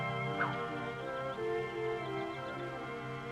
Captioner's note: cracking whip